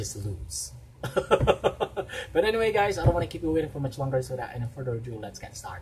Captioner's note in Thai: เสียงหัวเราะ